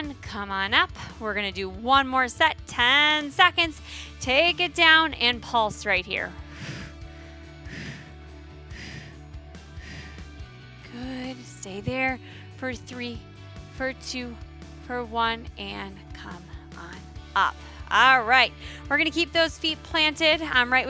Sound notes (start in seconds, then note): 6.7 exhaling; 6.7 upbeat music continues